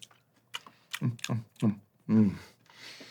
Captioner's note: lips smacking